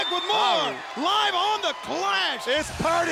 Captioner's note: crowd cheering